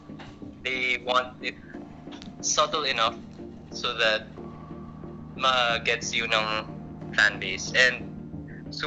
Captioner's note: OS: the electric fan's noisy